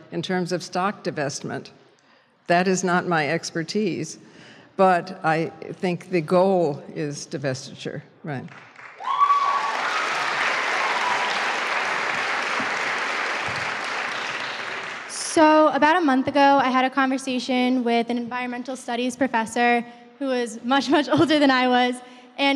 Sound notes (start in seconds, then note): 8.4 applause; 15.2 voiceover